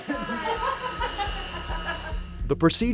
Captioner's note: nurse laughing